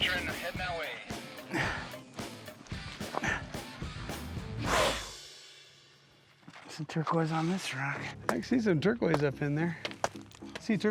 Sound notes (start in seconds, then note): 2.1 grunts; 4.5 blows